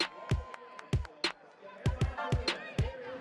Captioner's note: cheering; upbeat music